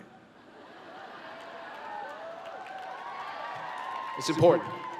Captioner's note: laughter and Cheering